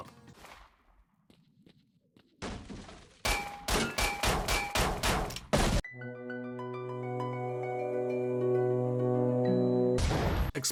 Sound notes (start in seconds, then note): 0.0 steps; 3.2 gunfire